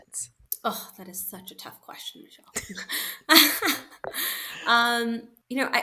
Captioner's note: chuckles